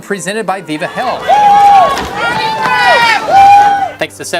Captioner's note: cheering